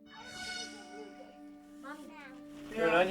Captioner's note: chatter